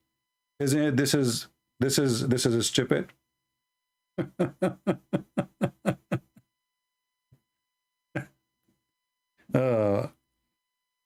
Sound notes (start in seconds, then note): 4.2 Ketawa